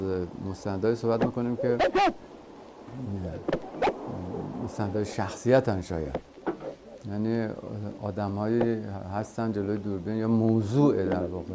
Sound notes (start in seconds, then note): 1.0 speaking foreign language